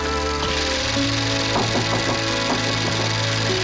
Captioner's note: knocking at door